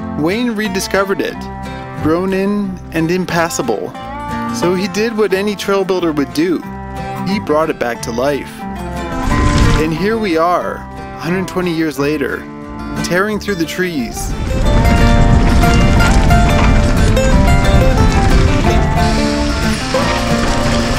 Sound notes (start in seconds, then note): 13.8 wind blowing